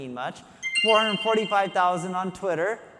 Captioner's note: screen chiming